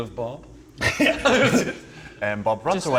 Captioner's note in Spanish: Risas